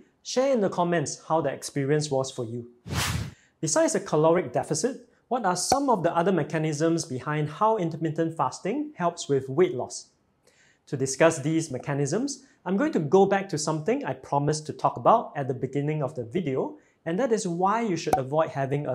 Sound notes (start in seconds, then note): 2.8 screen swooshes